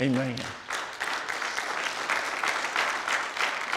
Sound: applause

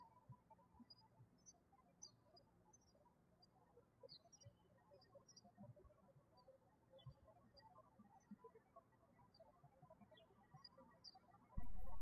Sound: birds chirping

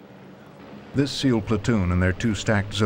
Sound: voiceover

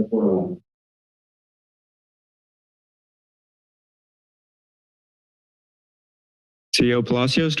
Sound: silence

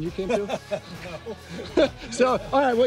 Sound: laughs

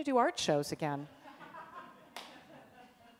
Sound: laughter from audience

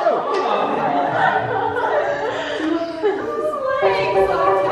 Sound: laughing

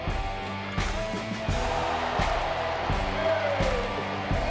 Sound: crowd cheering

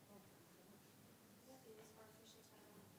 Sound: speaking faintly

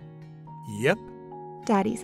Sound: voiceover

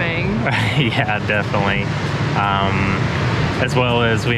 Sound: laughs

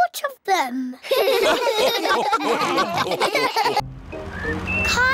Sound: all laugh

